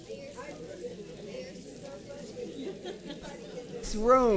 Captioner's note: speaking softly